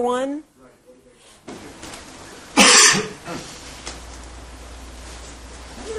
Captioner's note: cough